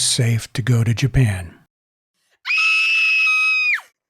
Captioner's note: scream!!!